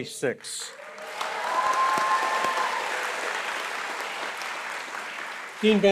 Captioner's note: applause